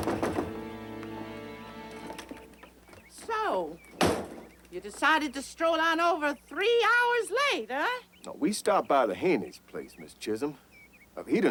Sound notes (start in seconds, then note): 0.1 knuckles rapping; 4.0 door slamming